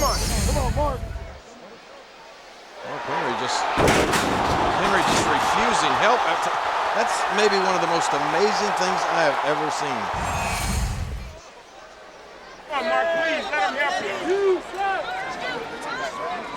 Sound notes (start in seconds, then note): 3.8 ring crashing; 3.8 body slams